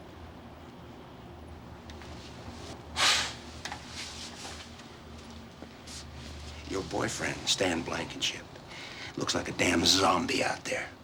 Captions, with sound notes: [SCOFFS] Your boyfriend, Stan Blankenship, looks like a damn zombie out there.